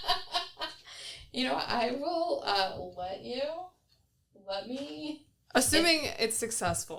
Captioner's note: laughing